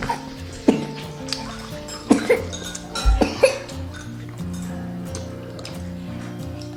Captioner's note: coughing and still remembered before and he said side cough